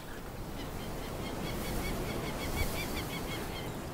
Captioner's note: sound of the wind